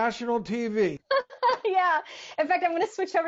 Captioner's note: laughs